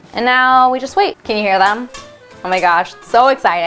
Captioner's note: popcorn kernels pop